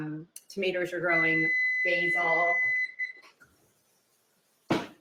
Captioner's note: oven beeps